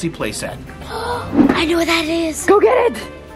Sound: gasps

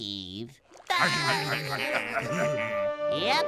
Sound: laughing

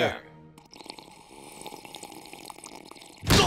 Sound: sipping tea

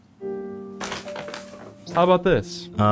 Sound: paper bag rustling

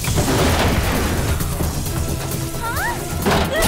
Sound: the spies scream

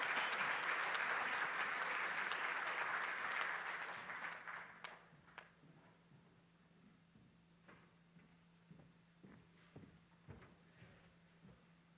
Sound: cheering and Applause

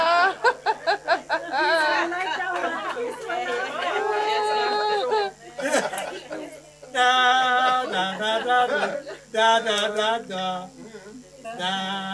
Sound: laughter

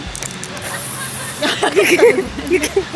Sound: sound of spraying before closing eyes&mouth

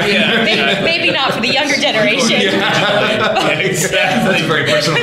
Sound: laughter

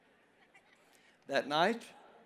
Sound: congregation laughs

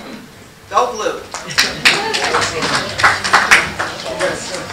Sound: applause

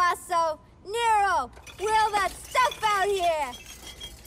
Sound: glasses clinking

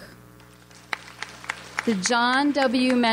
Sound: audience applauds

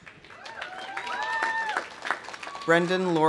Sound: audience applauding; audience cheering

